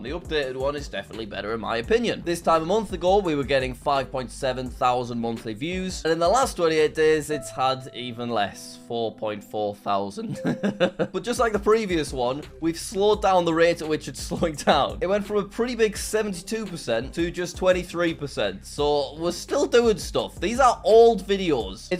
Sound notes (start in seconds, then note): 10.2 sad music; 10.3 chuckling